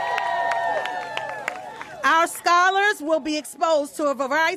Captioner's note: applause